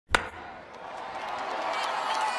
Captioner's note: baseball bat hitting ball; cheering